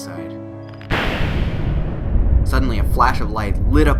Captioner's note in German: Donnern